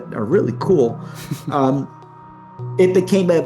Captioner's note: chuckles